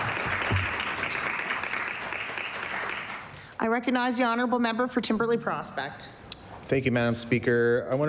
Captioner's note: applause